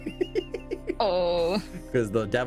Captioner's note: laughing